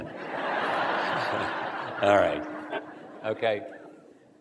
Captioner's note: laughter